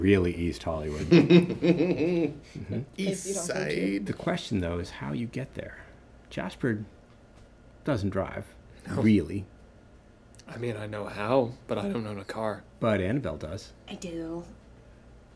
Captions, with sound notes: really easy Hollywood. (laughing) East side. The question though, is how you get there? Jasper doesn't drive, really. I mean, I know how but I don't own a car. But Annabelle does. I do.